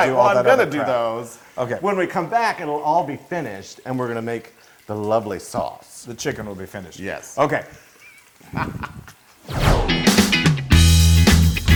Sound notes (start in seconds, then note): 8.0 laugh